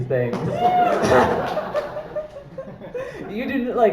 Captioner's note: applause